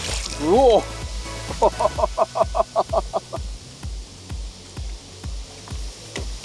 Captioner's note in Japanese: 笑い